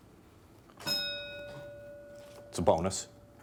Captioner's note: bell dinging